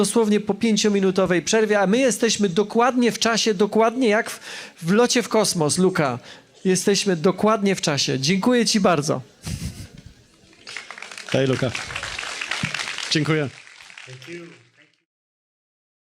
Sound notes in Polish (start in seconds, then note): 9.4 śmiech; 10.5 oklaski